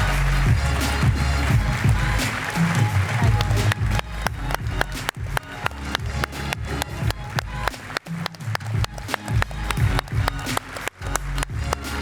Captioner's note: applause